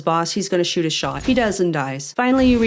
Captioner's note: metallic slice